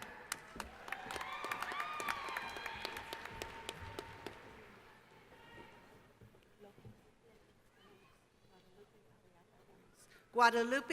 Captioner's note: cheering